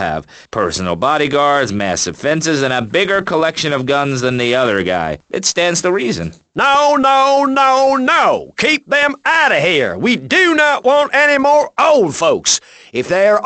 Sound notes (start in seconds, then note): none